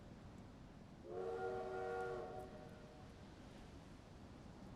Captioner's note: train whistle blows